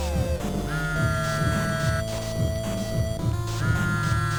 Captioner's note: phone buzzing